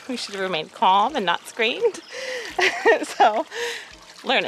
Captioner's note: laughter